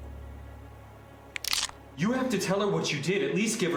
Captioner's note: cracking